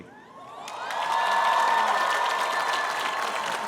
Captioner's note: cheering